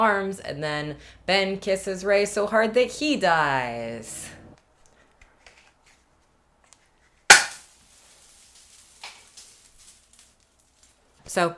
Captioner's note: party popper